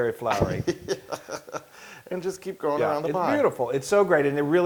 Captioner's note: laugh